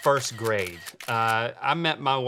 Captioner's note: camera shutter clicking